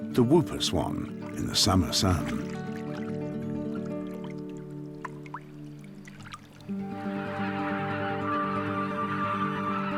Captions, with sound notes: The whooper swan in the summer sun. [swans cry]